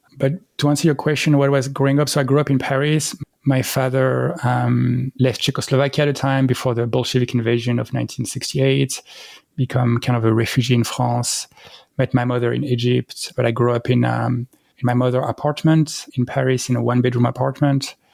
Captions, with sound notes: But to answer your question, what was growing up? So I grew up in Paris. My father, um, left Czechoslovakia at a time before the Bolshevik invasion of 1968. Become kind of a refugee in France, (breath) met my mother in Egypt, but I grew up in, um, my mother apartment, in Paris, in a one bedroom apartment.